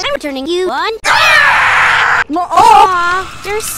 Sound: screaming

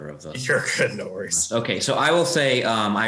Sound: chuckles

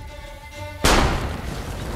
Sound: gunshot

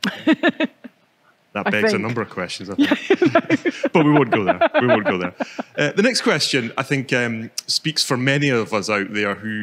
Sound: laughter

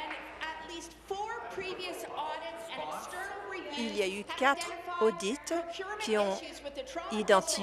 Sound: applause

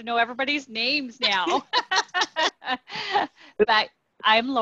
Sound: laughing

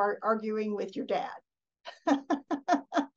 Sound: laughs

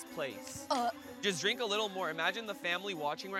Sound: gagging

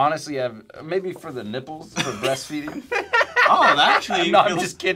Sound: laughs

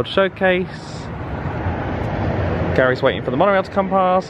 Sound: atmospheric hissing and rumbling

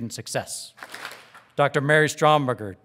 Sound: audience claps

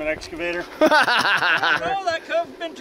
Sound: laughing

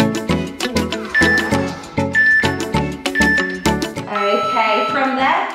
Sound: countdown timer beeping

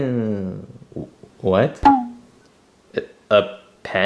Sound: electronic ping

